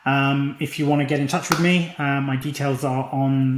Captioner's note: claps hands